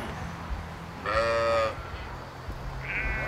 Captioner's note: bleating